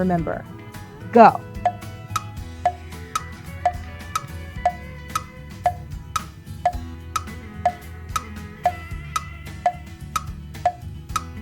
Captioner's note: clock ticking